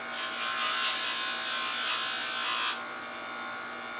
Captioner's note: grinding